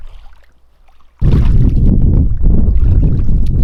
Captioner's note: water lapping